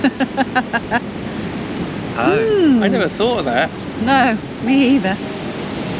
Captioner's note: laughter